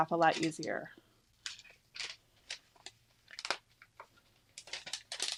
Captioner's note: sheet cracking